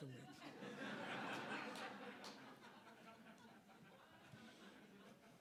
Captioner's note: audience laughing